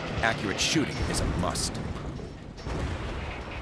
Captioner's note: cannon fire